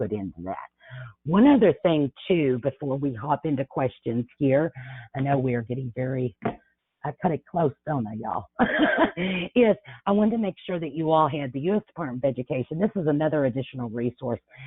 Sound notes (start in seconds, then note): 8.6 laughs